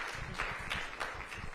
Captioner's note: applause